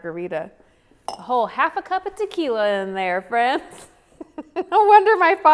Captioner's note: laughs